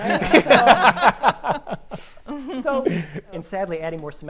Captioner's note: panelists laughing